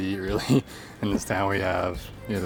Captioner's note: laughs